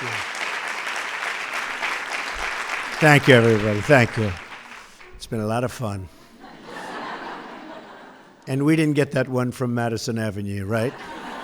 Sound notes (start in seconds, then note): 6.4 laughter